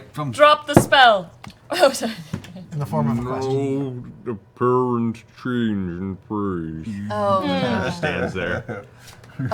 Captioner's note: slow-mo voice; normal voice